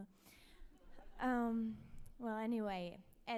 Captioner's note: audience laughs